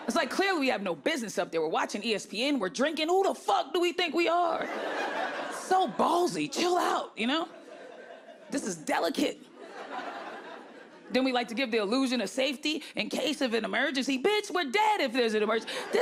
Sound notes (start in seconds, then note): 4.6 audience laughing; 9.5 audience laughing